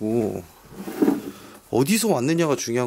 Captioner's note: the sound of opening the drawer